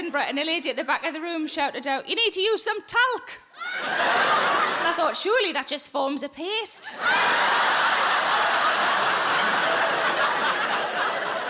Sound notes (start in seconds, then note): 6.9 audience laughing